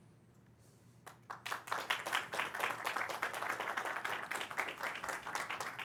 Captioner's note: audience clapping